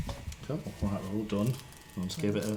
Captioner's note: tattoo gun sounds